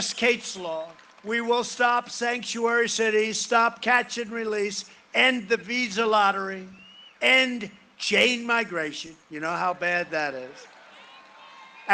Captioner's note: cheering and applause